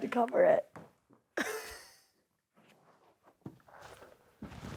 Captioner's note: laughs